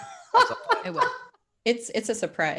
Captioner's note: laughs